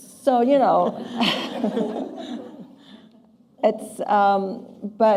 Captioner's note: laughter